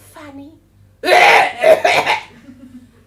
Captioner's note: coughs